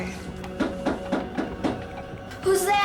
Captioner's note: knocking